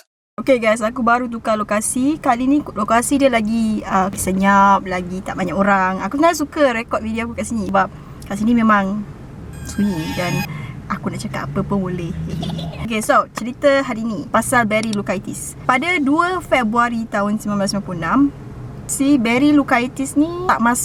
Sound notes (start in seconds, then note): 9.5 accompanied by eerie sound; 12.2 child evil laughter